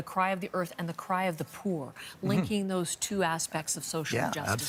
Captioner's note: speaking alternate language